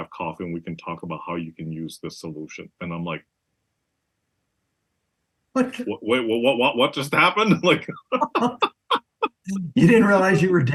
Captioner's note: laugh